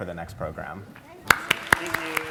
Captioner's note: audience applauds